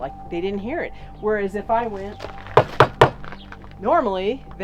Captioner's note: knocks